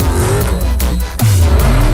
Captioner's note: stair Vroomm